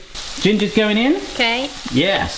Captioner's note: pan sizzling